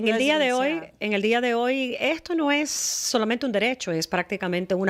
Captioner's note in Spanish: Hablando ingl\s